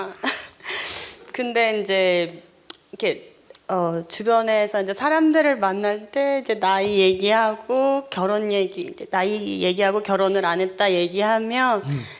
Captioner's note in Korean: 질문자 웃음